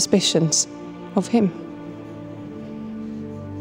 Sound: none

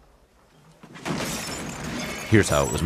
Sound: crash

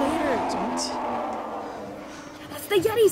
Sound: ungodly scream; ungodly scream continues

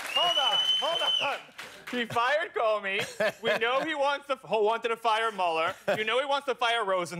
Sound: cheers and applause

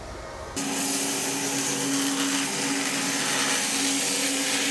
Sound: saw blade humming

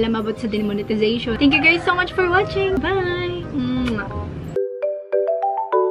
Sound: kisses

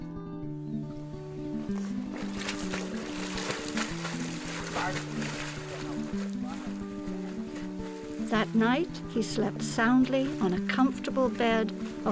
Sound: water splashing

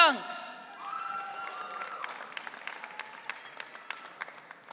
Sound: audience cheering

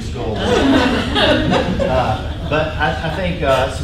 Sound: laughing

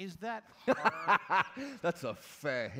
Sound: A kind of belly laugh thing

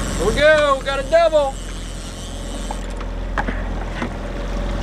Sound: reel clicking in

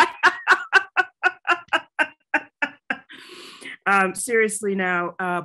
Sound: laughs

